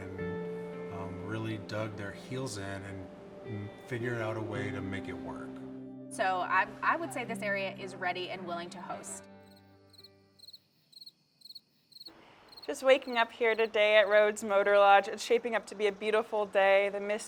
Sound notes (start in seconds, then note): 9.4 crickets chirping